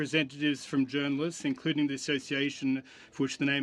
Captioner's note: speaking French